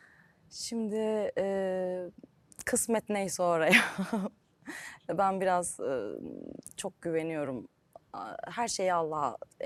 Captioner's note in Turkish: kahkaha